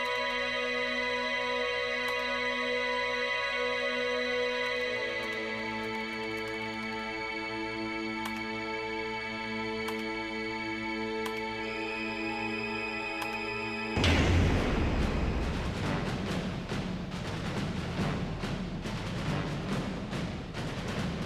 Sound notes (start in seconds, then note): 14.0 boom crash; 15.4 martial orchestral music